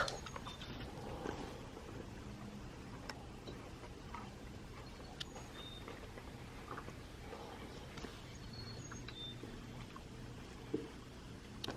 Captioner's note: birds chirping in the background